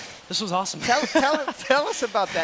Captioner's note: laughing